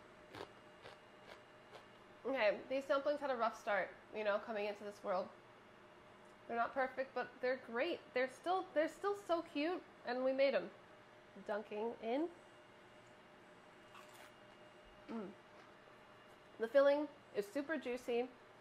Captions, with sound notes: [crunching] Okay, these dumplings had a rough start, you know? Coming into this world. They're not perfect but they're great. They're still so cute. And we made 'em. Dunking in. [crunching] Mm. The filling is super juicy.